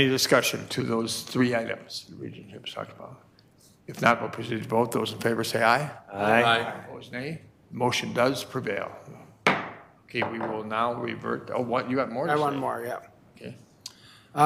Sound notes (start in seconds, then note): 9.4 gavel pounding